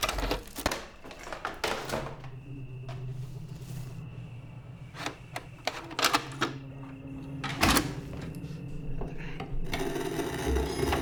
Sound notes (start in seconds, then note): 0.0 tape rattles; 2.3 sinister music; 6.0 VCR clicks; 9.7 VCR whirs; 10.7 object creaks upstairs; 10.7 static buzzing